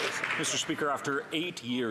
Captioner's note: some Applause